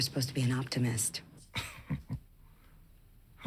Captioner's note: chuckles